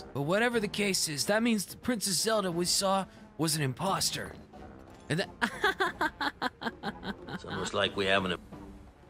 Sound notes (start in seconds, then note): 5.3 fake Laughter